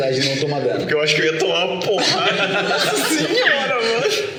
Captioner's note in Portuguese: Risadas